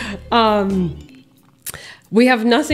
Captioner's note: laughs